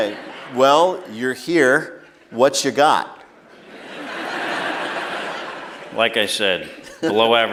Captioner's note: laughter